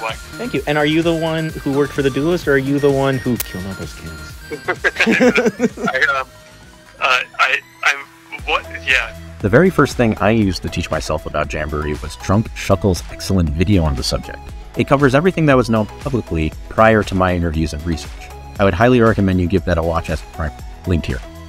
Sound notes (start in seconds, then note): 4.5 laughs